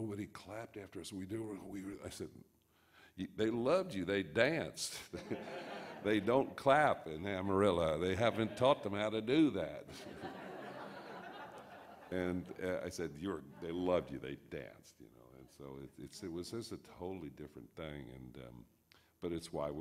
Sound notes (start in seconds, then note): 9.9 audience laughs